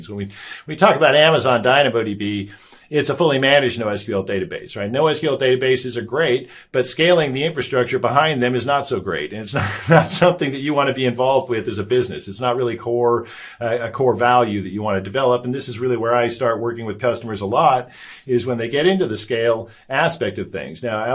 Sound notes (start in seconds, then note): 9.5 chuckles